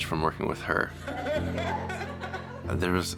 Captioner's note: laughing